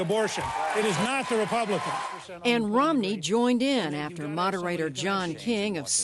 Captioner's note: cheering and applause